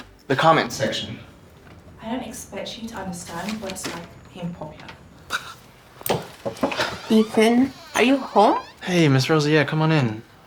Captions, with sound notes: Your comment section. I don’t expect you to understand what it’s like being popular. (knocking on the door) Ethan? Are you home? Hey, Miss Rosa. Yeah, come on in.